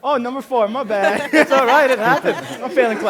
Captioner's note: laughter